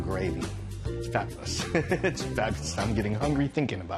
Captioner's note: chuckles